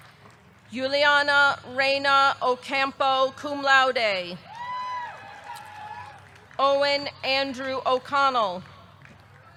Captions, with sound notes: Yulianna Reyna Ocampo, cum laude. (audience cheering) (audience clapping) Owen Andrew O'Connell.